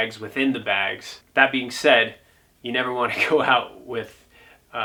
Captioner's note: laughs